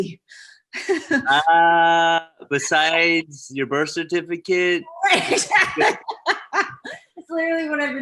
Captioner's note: laughs